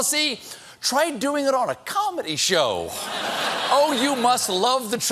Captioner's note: laughter